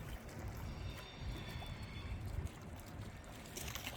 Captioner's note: squeal of train wheels from the bridge and the lapping of the lake on the shore